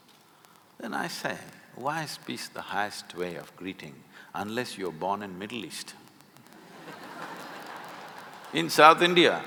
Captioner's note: laughter